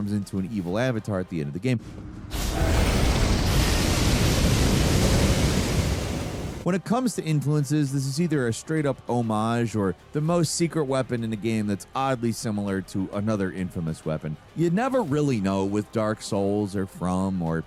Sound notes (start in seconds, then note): 1.8 air whooshing